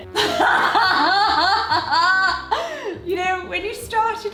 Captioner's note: laughs